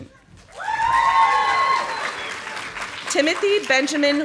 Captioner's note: audience applauding